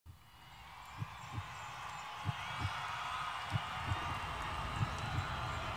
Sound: crowd cheering; heartbeat thudding

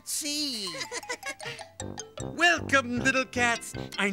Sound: all laughing

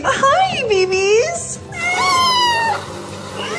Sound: meowing

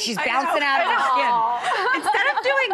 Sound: laughing

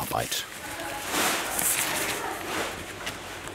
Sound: babble of voices in the background

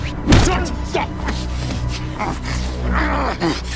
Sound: grunting

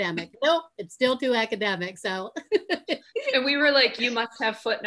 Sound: laughing

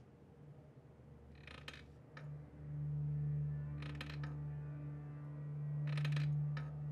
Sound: sound of wood creaking

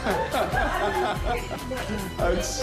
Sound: laughter

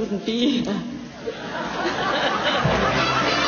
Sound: laughs; laughter on video

